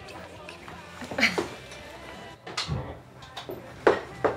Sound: Erin chuckles

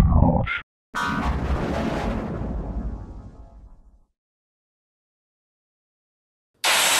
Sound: 12-Eyed Devil Windows XP Shutdown Sound

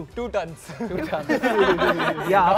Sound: laughter

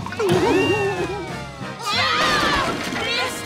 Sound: screaming

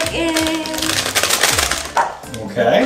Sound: plastic crackling

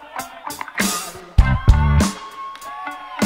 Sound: audience cheers

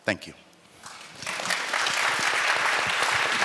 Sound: applause

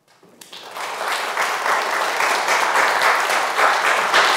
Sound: audience applauding

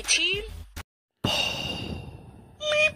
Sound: boooom

